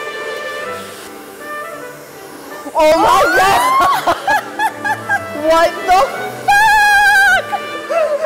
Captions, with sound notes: Oh my god! (laughing) What the fuck!